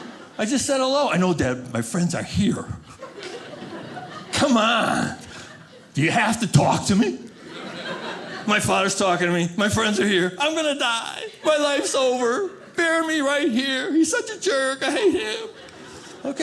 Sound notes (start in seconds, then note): 2.8 audience laughing